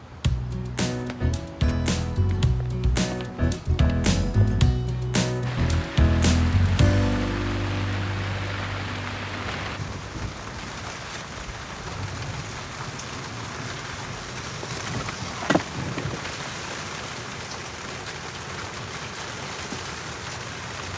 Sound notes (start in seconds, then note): 0.3 upbeat music; 5.5 rain pattering